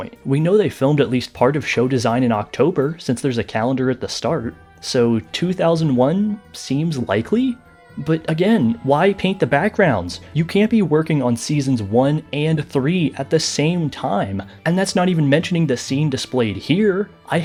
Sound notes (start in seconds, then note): none